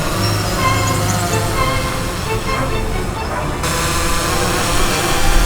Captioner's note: mechanical whirring